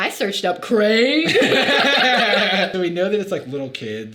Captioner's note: both laughing